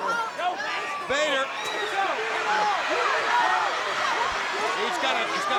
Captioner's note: crowd cheering